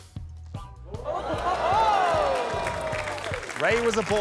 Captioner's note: all exclaim